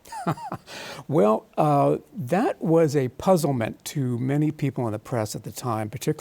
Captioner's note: laughs